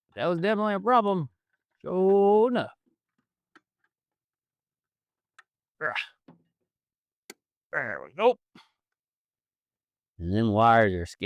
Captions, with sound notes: That was definitely a problem. (Singing In Foreign Language) (Grunts) There we go. And then wires are